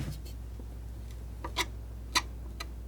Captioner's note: scratching